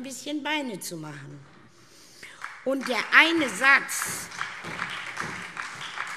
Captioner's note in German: Beifall SPD